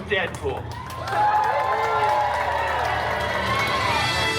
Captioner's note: guests cheering and applauding